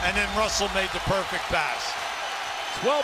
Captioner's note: cheers and applause